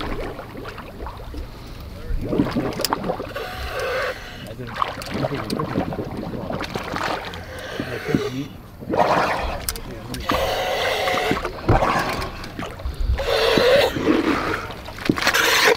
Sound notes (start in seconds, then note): 1.2 water bubbling; 9.8 breathing loudly